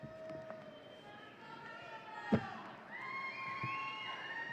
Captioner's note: audience cheering